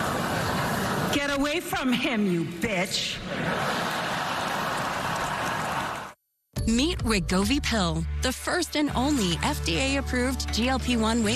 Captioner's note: laughter